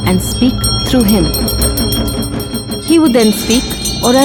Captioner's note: bell chimes; intense drumming